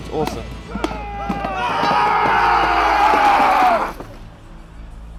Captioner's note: shouting